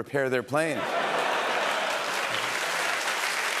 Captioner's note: laughter